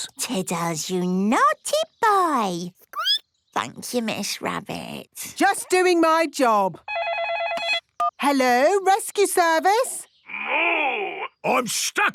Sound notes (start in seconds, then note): 2.5 squeaking; 6.8 phone ringing